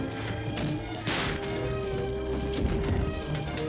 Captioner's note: gun firing